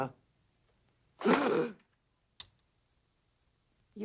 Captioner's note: gasps